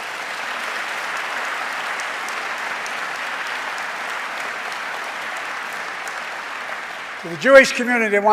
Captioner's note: applause